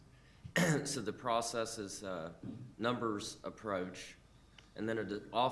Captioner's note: coughs